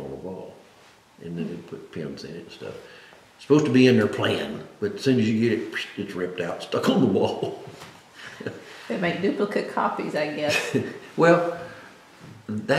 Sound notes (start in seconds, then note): 6.8 laughs